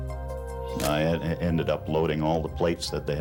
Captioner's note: camera shutter click